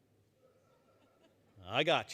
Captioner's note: chuckling